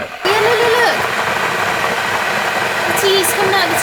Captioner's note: kettle bubbling